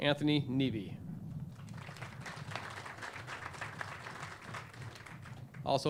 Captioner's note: clapping